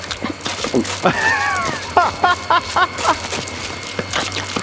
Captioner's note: laughing